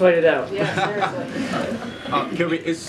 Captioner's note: laughter